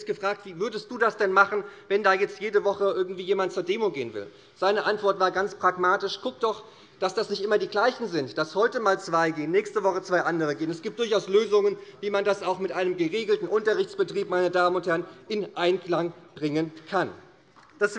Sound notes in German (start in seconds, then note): none